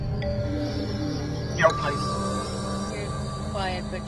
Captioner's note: electric voice